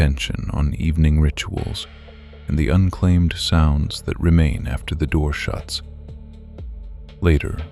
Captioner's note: soft voice